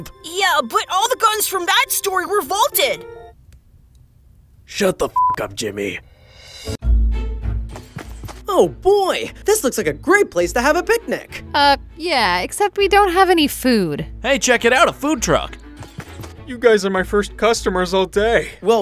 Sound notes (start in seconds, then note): 5.1 beep; 6.5 upbeat music